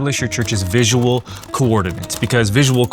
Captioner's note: keyboard clicking